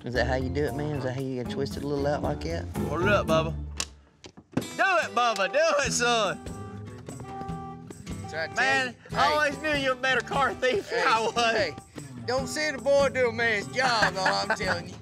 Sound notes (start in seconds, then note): 3.5 click; 6.4 alarm sounding